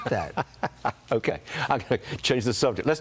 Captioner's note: laughter